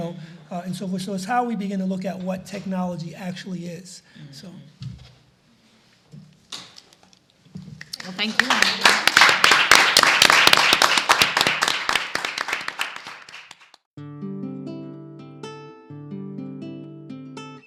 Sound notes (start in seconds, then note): 7.8 audience applauds; 14.0 gentle guitar music